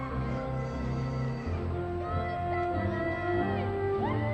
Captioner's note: audience cheering